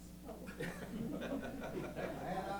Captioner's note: laughter